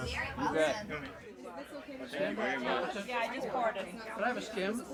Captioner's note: people chattering